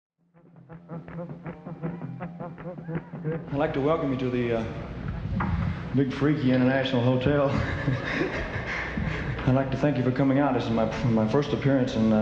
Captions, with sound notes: (faint rock music) (audience cheering) - I'd like to welcome you to the big, freaky International Hotel. (laughing) I'd like to thank you for coming out. This is my first appearance,